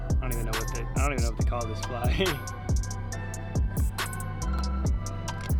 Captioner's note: laughing